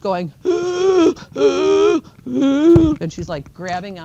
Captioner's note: wheezes and gasps